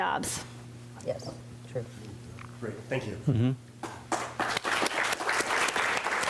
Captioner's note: applause